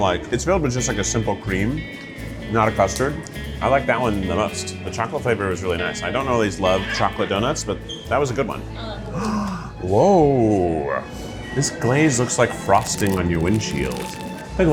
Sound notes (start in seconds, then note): 9.1 gasps; 9.7 gentle lilting music